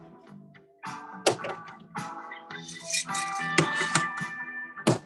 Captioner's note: object clatters